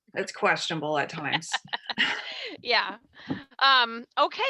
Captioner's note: laughs